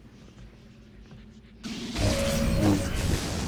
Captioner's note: gunshots